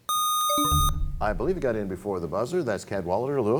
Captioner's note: buzzer sound; bell chimes